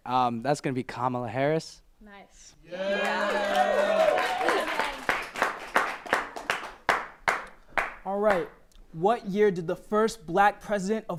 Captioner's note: applause